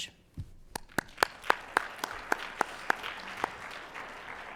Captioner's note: audience applauding